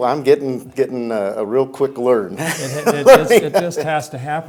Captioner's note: laughs